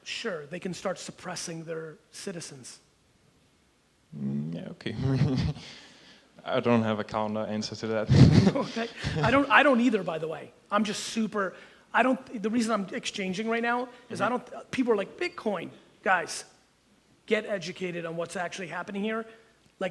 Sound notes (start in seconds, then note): 4.9 chuckles